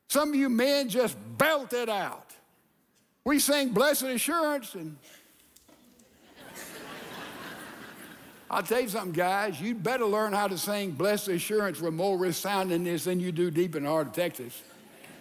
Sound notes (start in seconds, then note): 5.9 congregation laughing